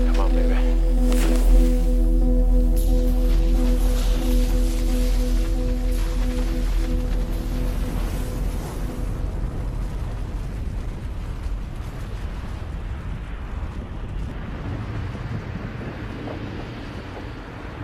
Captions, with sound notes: Come on baby. (snow crashing)